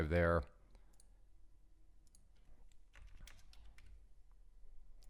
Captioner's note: clicking